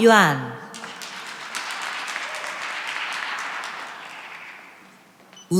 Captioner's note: cheering and applause